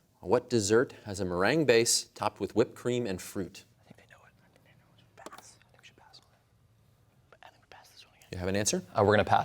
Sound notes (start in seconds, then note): 4.1 whispering